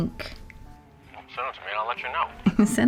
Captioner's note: hawk on phone